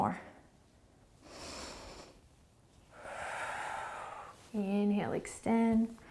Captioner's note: inhaling and exhaling